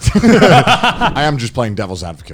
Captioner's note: all laughing